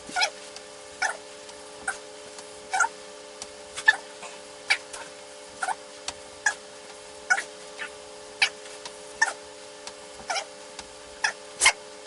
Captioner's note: fast Forward playing tape